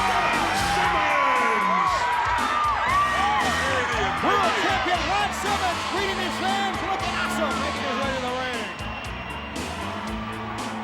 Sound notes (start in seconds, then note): 1.7 audience cheers; 6.8 speaks faintly